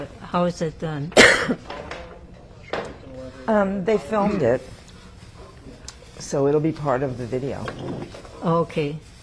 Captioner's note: coughing